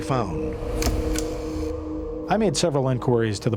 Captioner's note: shutter click